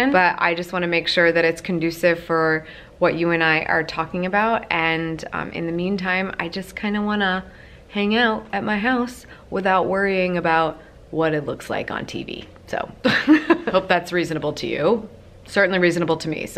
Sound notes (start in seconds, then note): 13.1 laughs